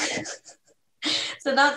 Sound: laughs

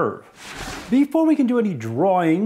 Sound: whooshing

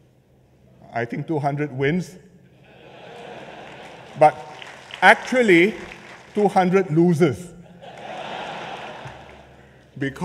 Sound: laughter

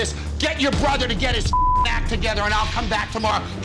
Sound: beep

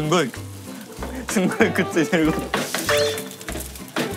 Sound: laughter

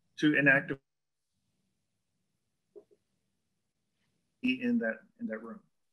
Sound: audio drop

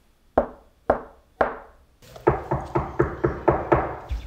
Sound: loud banging

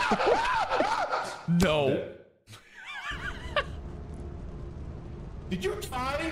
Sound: wheeze

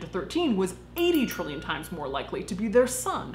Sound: chiming

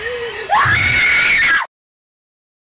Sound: big scream

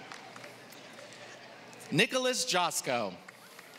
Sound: applause

